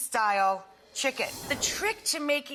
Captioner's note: air whooshes